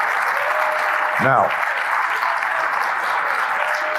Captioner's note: applause